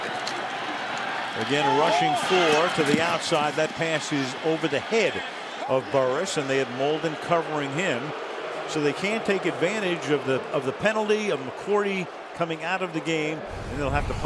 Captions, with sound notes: Again, rushing four to the outside. That pass is over the head of Burress. And they had Molden covering him. [booing] So they can't take advantage of the penalty of McCourty coming out of the game.